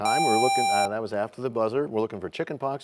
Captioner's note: bell rings, time expires